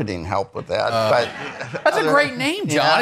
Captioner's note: attendees laughing